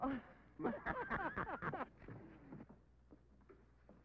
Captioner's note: laughing